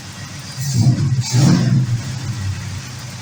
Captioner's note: engine revs